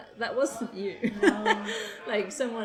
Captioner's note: laughs